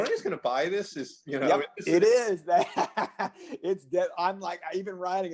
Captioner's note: laughs